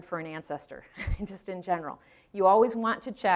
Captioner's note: chuckling